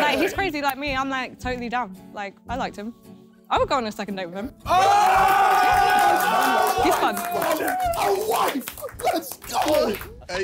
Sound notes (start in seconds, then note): 4.7 screaming